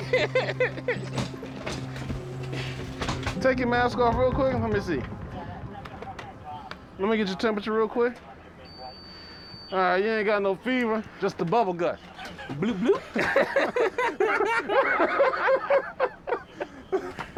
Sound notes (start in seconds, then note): 12.0 laughter